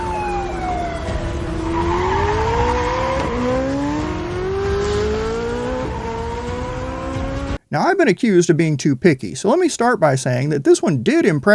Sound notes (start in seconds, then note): 0.0 car engines roaring